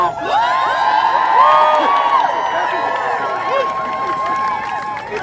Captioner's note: crowd cheers